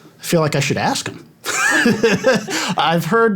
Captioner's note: laughter